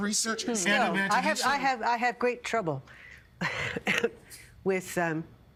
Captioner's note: coughing